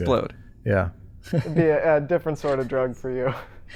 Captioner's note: chuckles